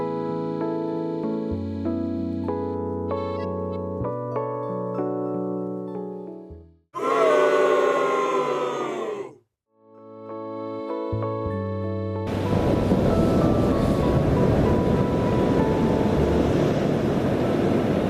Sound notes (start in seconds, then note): 6.6 booing sound effect